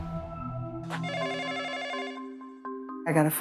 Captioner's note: phone ringing